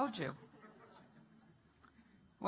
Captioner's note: laughter